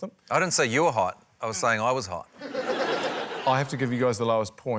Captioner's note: laughter